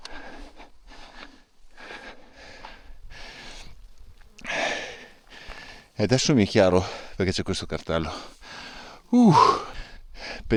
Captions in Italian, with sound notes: [sbuffare] E adesso mi è chiaro perché c'è questo cartello. [sospiri][suono gutturale] Uh,